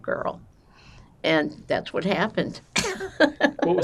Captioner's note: laughing